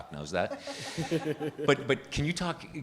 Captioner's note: participants laughing